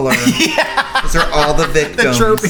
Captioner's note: laughs